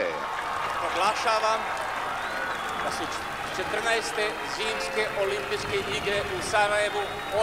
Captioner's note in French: applaudissements